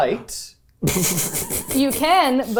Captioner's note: laughing